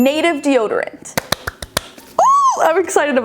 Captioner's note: clapping